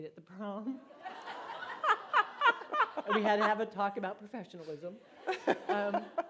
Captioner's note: laughter